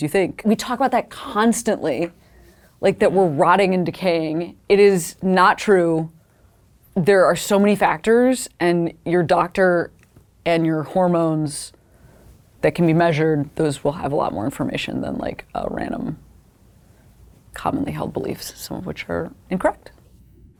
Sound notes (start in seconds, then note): none